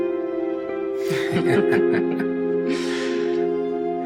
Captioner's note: both laughing softly